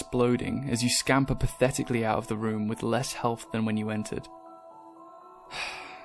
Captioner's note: sigh